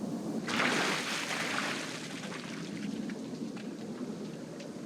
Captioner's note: water splashing